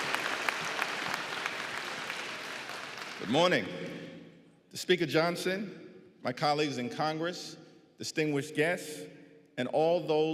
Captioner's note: applause